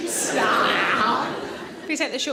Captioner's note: eating noise